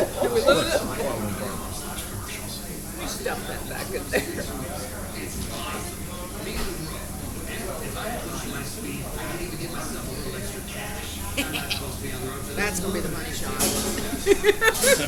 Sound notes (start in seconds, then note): 5.4 customers chattering